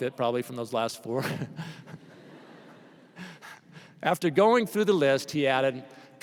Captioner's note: laughter